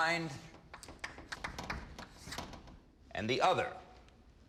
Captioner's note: chalk clacking on board